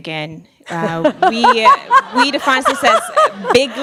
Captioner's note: laughing